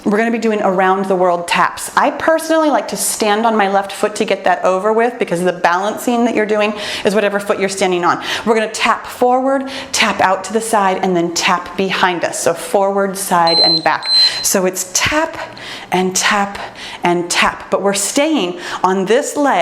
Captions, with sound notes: We're gonna be doing around the world taps. I personally like to stand on my left foot to get that over with because of the balancing that you're doing, is whatever foot you're standing on. We're gonna tap forward, tap out to the side and then tap behind us. So forward side (timer beeps) and back. So it's tap and tap and tap, but we're staying on this leg